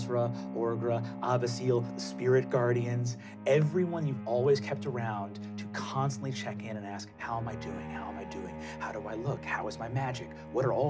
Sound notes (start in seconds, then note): none